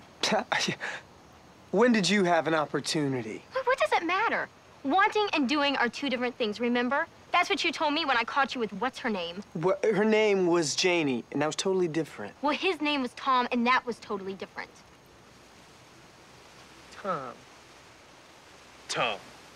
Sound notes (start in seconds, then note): 0.3 scoffs; 9.8 stammers